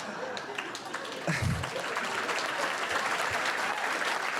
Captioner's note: audience laughter; applause